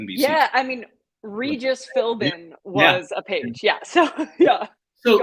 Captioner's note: laughter